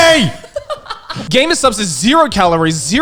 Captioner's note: laughing